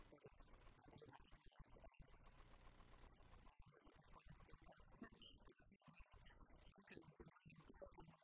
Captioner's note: german